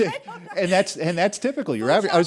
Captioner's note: laughter